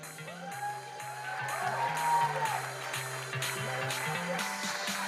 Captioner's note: audience cheering and applauding; electronic dance music